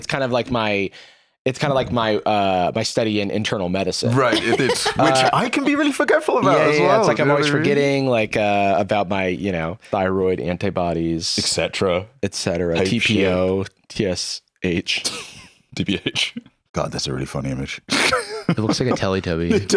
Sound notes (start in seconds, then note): 15.0 chuckling